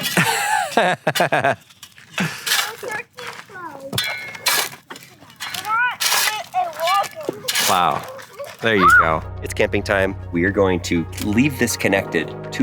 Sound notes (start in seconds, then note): 0.0 metallic scraping; 0.2 host laughing; 2.2 children talking indistinctly